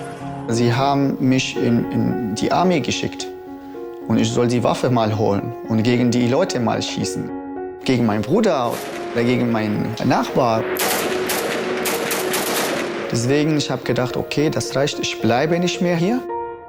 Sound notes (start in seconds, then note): 0.2 in German; 10.4 gunshots